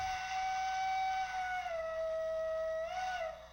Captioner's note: train whistling